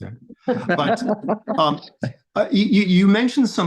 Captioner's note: both laughing